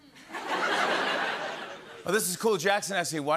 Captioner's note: laughter